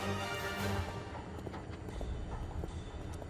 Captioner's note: machinery humming